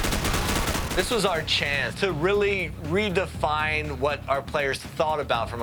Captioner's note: gunfire